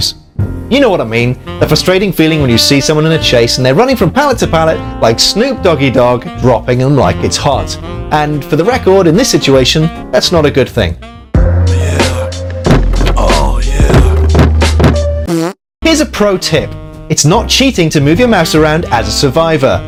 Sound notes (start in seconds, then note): 13.8 comedic fart noise